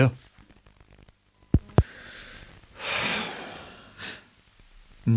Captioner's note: tape click